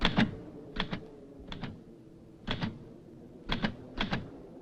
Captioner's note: typewriter clacking